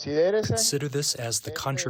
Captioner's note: through translator